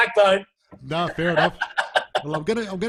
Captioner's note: all laughing